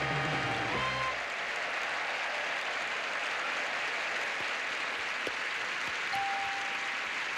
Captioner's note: audience applauding